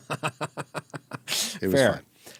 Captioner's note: laughing